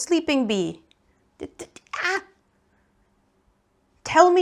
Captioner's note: excitement noises